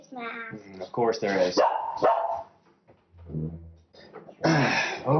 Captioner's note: dog barking